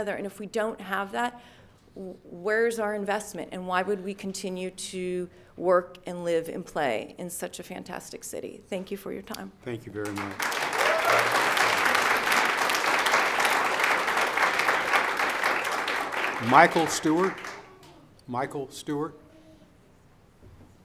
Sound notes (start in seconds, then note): 10.0 audience applauds; 10.1 audience cheers